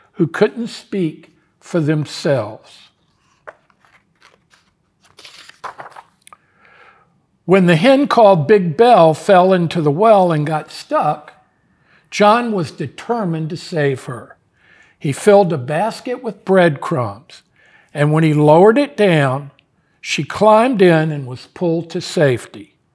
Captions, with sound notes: who couldn't speak for themselves. (pages rustling) When the hen called Big Belle fell into the well and got stuck, John was determined to save her. He filled a basket with breadcrumbs, and when he lowered it down, she climbed in and was pulled to safety.